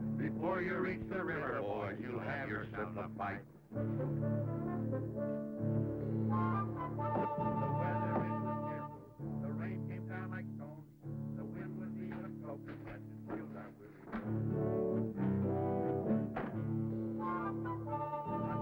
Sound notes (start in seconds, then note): 12.7 singing drowned out by footsteps